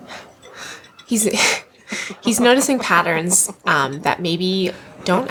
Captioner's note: laughs